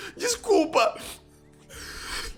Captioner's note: crying